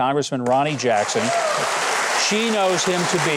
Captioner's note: audience cheering